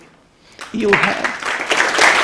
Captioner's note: applause